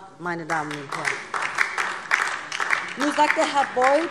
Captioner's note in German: Beifall DIE LINKE